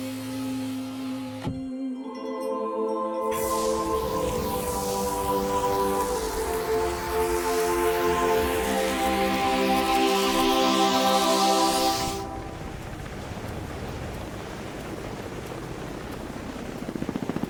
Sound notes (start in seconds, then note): 1.5 angelic music; 5.7 laser noise